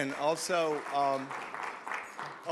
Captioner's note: audience clapping